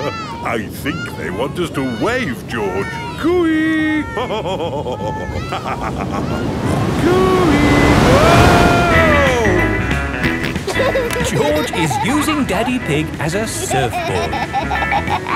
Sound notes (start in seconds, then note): 4.0 laughs; 10.5 snorts and laughs